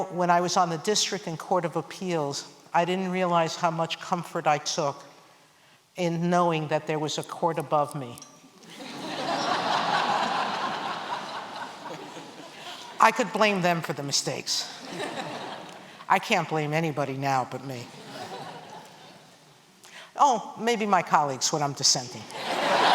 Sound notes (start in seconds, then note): 8.6 laughter